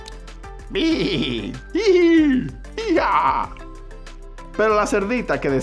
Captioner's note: imitates animals laughing; speaking Spanish